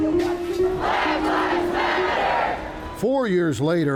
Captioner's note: crowd